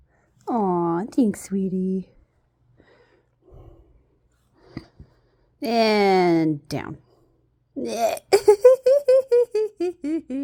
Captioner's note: laughs